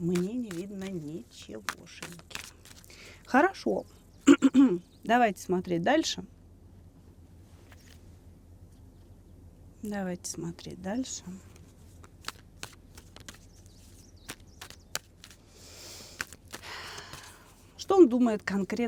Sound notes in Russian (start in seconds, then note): 4.2 откашливается